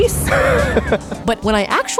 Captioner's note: laughs